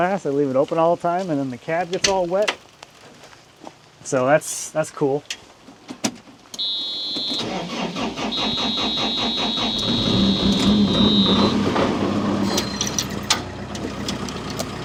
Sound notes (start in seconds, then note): 6.5 alarm blaring; 7.2 engine revving